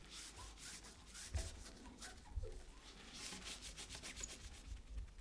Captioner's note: sponge squeaks against glass